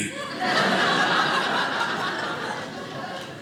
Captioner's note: audience laughing